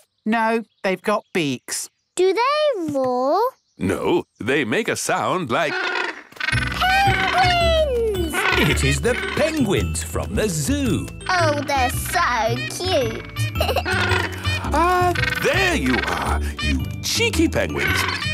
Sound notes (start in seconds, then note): 5.6 honking; 12.4 honking; 13.4 giggles